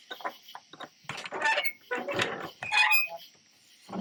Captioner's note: lock clatters